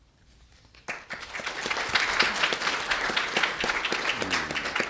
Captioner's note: audience clapping